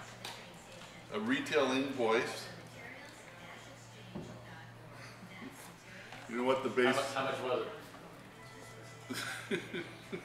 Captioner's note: laughs